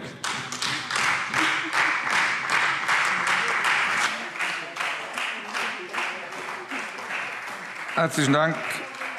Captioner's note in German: Beifall Freie Demokraten und vereinzelt CDU und SPD